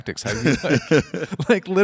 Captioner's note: Dwyane and Tom laugh